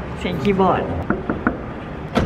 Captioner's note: Knocking